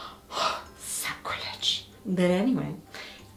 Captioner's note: gasps